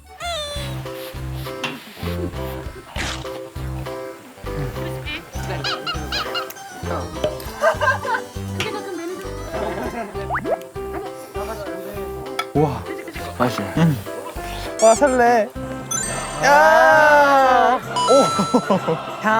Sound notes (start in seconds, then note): 1.9 blows on it